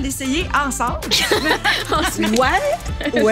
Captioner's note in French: rires